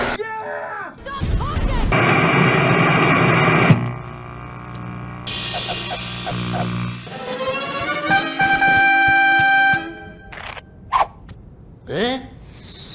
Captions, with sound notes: - Yeah! - Stop talking! (TV STATIC SCREECHING) (TV BUZZERS)